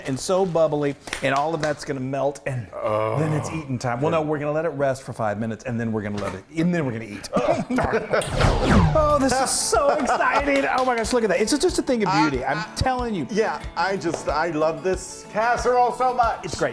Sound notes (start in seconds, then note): 8.2 laser sounds; 9.7 excited clapping and laughing